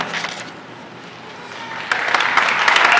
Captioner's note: applause